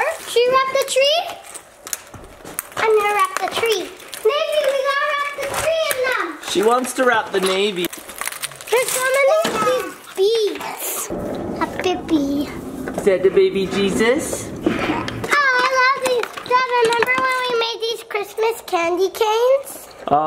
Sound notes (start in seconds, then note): 8.4 garland clacking; 11.7 babbling